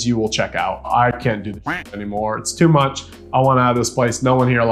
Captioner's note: duck quacking